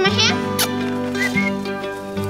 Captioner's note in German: Pfeifen